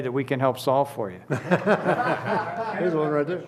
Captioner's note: laughter